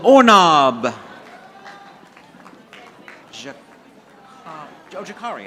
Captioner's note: audience applauding